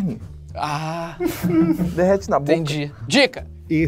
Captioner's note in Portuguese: risadas